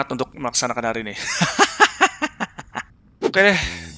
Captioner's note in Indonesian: ketawa